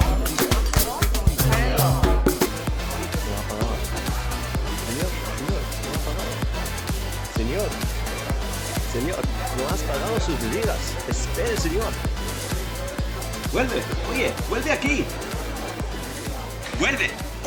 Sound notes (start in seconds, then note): 0.0 bar chatter; 1.4 waiter speaks foreign language; 4.9 Servidor shouts; 9.5 foreign language; 13.5 Servidor shouts